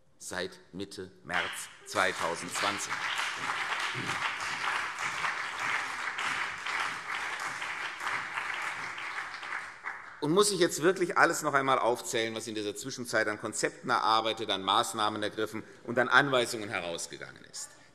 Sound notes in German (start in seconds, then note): 6.3 Beifall CDU und BÜNDNIS 90/DIE GRÜNEN